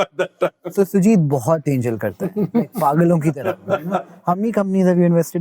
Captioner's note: speaking in Hindi